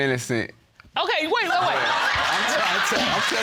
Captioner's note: audience laughing